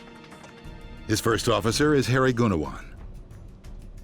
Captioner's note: voiceover